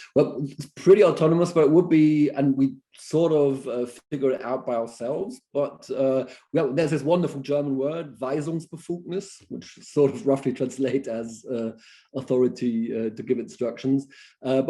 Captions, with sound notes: But it's pretty autonomous what would be and we sort of figured out by ourselves but well there's this wonderful German word [SPEAKING GERMAN] which sort of roughly translates as authority to give instructions.